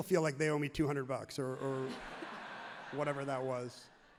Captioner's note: everyone laughs happily